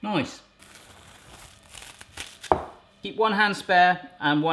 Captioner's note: plastic rustling